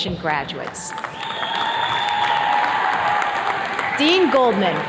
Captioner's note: attendees cheers and claps